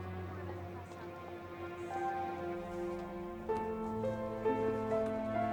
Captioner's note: students chattering; tense piano music